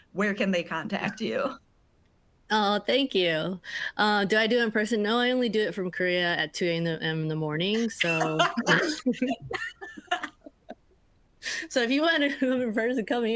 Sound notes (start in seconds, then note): 8.0 laughing